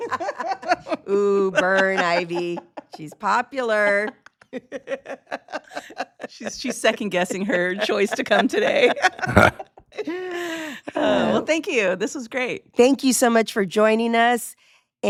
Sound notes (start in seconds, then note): 0.1 laughing; 4.3 laughing; 9.3 all laughing